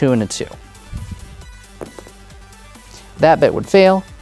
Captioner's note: dice rolling